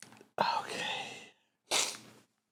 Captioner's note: sighed